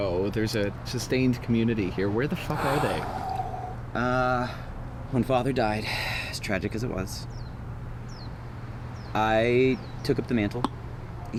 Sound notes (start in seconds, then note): 2.5 Anubis sighing